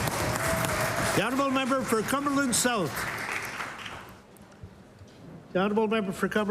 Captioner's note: applause